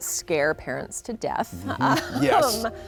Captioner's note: laughs